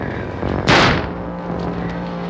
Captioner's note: gunshot